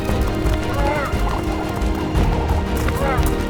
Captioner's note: squawking; trilling